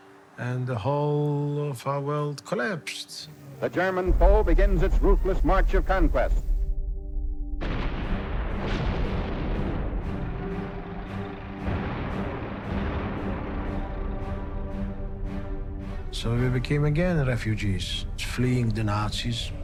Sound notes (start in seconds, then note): 7.5 ominous music; 7.5 shells exploding